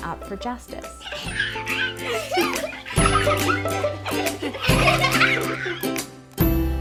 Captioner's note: happy music; children laughing